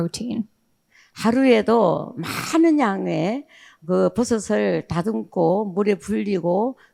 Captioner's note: speaking in foreign language